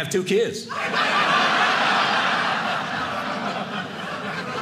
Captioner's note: audience laughing